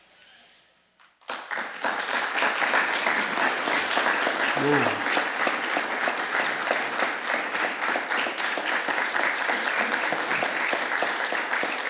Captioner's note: applause